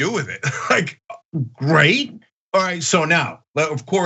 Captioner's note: laugh